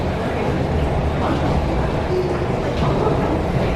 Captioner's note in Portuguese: sons do metrô com conversas ao fundo